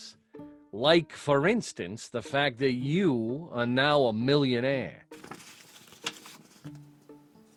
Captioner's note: paper rustling